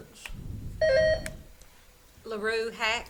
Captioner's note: buzzer beeps